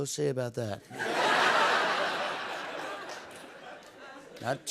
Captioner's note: laughter